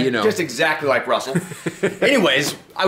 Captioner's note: laughs